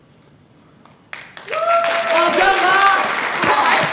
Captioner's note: audience applauds